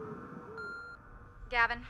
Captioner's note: beeping; voiceover